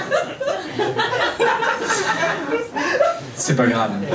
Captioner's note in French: rires public